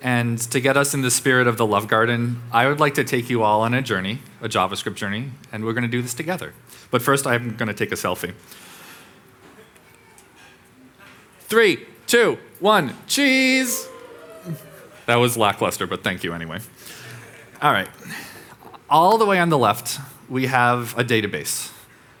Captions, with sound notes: And to get us in the spirit of the love garden I would like to take you all on a journey, a JavaScript journey, and we're gonna do this together, but first I'm gonna take a selfie 3, 2, 1, cheese. (audience wooing) That was lackluster, but thank you anyway. (audience chuckling) Alright, all the way on the left we have a database,